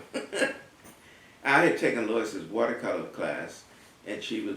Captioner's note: laugh